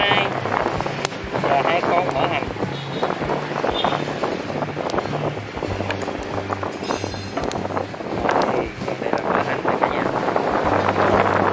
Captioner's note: sizzling